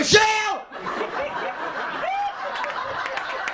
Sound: laughter, applause, and cheering

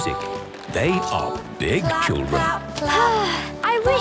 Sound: Belinda sighing

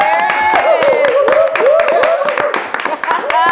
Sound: laughing

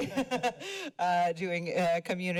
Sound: laughter

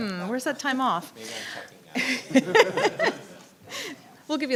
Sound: laughter

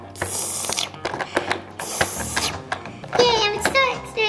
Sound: slurping

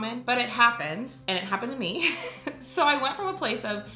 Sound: laughs

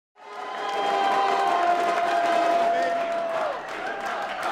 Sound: crowd cheering

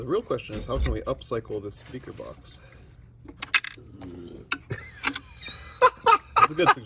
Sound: burps

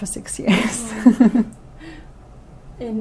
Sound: laughs

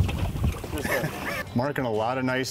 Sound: chuckles

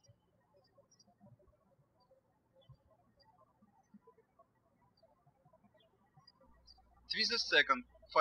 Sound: birds chirping

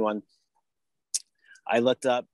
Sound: lip smack

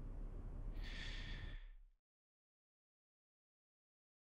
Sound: sighs

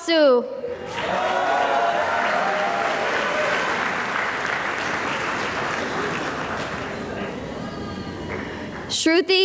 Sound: cheering and applause

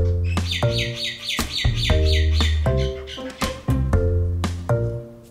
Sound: birds chirping

